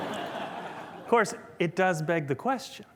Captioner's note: laughter